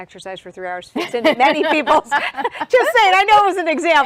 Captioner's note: laughs loudly